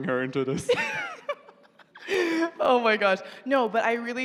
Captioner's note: laughs